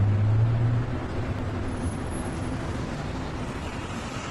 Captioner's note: vehicle engine humming